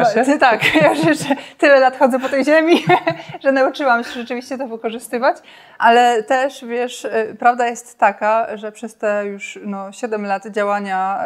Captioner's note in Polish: śmiech